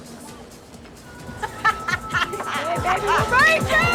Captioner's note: laughing